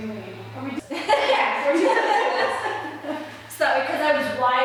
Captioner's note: laughing